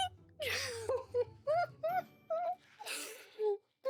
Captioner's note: laughing